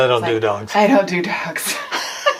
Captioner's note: laughs